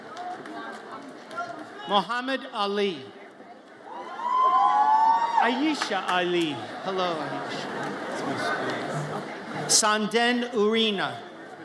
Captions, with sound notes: Muhammad Ali. (audience cheers) Ayesha Ali, hello, Ayesha. (audience chatters) Sanden Urena.